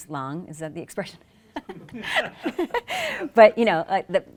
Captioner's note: laughs